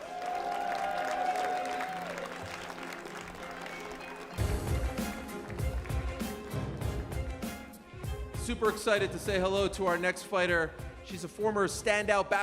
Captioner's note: cheers and applause